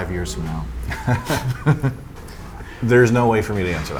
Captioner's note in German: lacht